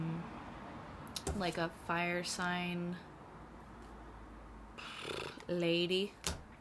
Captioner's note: bfffp